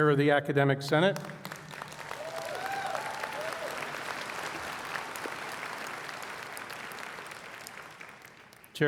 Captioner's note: applause